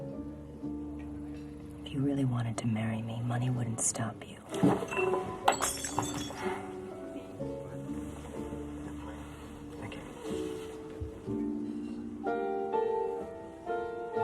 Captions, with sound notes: - If you really wanted to marry me, money wouldn't stop you. (glass shatters) (gentle music) - Thank you. (gentle music)